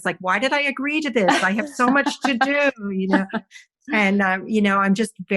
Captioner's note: laughs